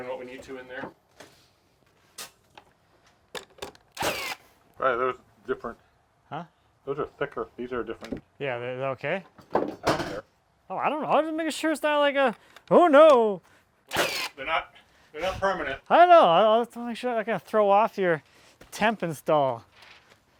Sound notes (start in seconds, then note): 3.9 nail gun shooting; 9.3 tools clattering